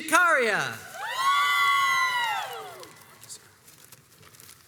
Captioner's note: crowds cheers and applauds